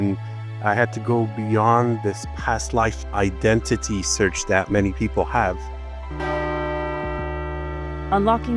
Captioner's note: gong